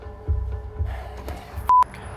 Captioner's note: sighs